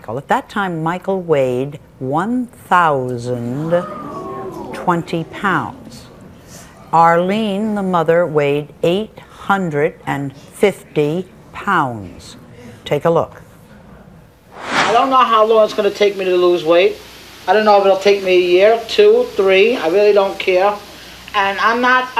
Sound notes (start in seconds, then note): 3.6 audience gasps